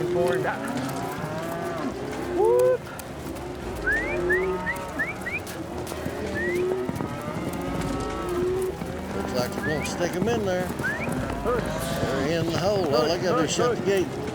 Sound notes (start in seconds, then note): 0.2 cows mooing; 3.7 whistling; 5.9 cows mooing